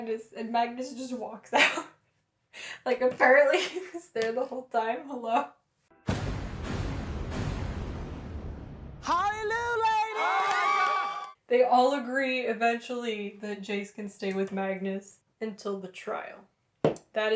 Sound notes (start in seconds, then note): 3.5 laughter; 6.0 various booms; 9.3 screaming